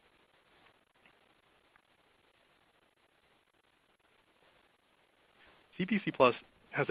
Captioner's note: silence